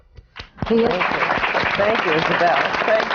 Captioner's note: applause